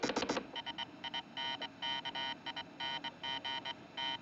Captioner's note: Fone de Ouvido: Zumbindo, Clicando